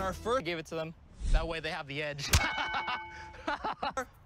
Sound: laughs

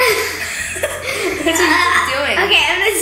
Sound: laughs

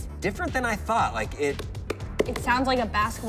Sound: knocking

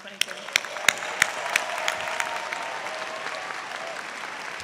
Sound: applause

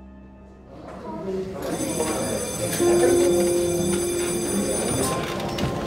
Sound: alarm ringing

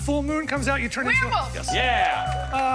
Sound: bell dings

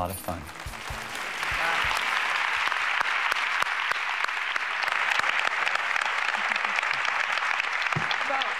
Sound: applause

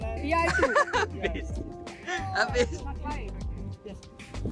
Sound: laugh

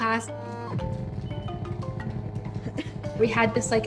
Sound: electronic squelching

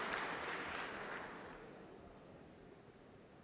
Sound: applause

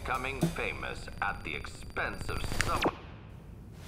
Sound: TV turns off

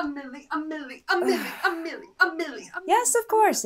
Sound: dramatic sigh

